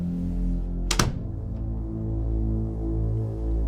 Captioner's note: shutting door